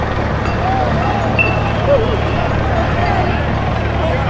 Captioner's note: glass bottle rolling